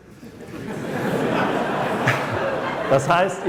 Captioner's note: laughter